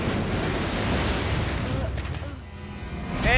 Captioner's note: groaning